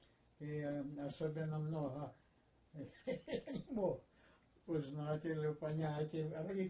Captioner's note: laughing